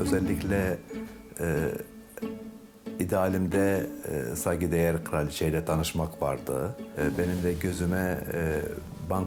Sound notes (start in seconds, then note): 2.9 continues speaking in foreign language